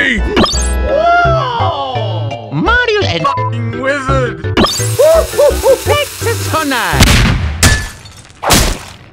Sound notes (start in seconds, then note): 0.3 poof; 7.0 boom; 8.4 thud